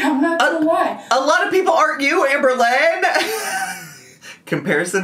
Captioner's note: laughs